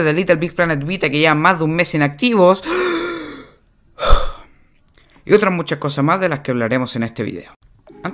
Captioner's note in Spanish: suspira